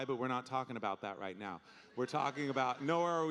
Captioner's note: audience laughing